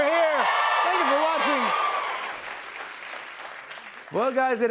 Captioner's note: cheers and applause